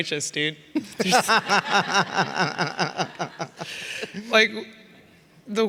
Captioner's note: all laughing